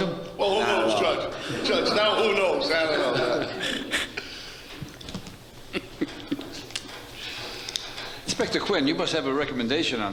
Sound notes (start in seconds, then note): 5.6 laughs